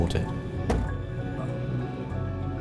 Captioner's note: thud!